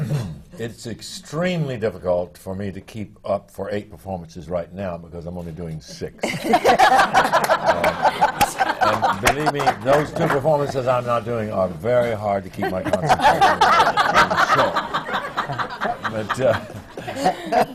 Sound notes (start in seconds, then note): 6.2 laughter; 17.5 laughter